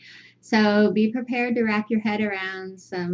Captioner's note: Vietnamese